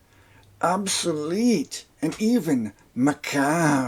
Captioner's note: peter lorre voice